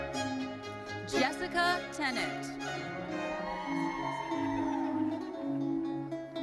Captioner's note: audience cheering